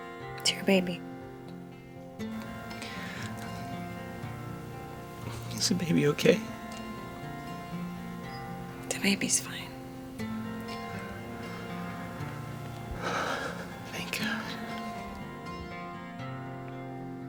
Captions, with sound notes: It's your baby. - (voice breaking) Is the baby okay? - The baby's fine. - (exhales) Thank God.